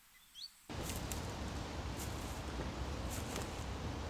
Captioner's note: leaves crunch